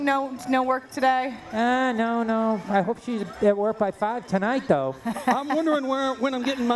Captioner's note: laughter